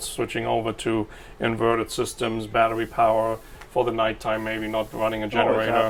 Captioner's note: none